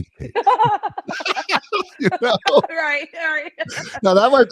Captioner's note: laughs